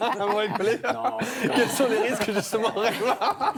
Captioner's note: laughter